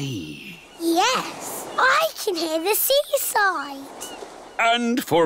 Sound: waves splashing

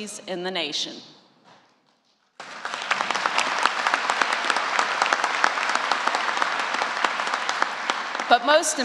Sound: applause

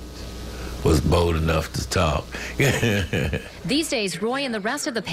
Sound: laugh

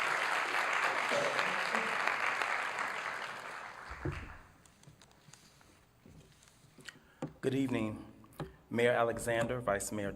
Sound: applause

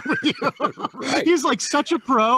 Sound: laughing

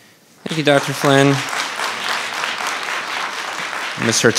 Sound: audience applauding

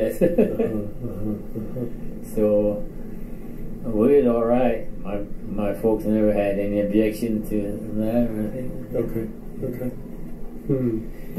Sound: chuckles

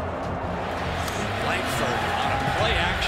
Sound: crowd cheers

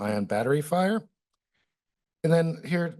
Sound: pause

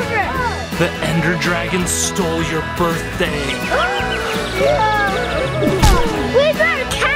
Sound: gasps

